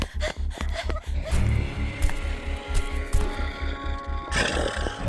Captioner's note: Heather panting; suspenseful music continues; Brad growling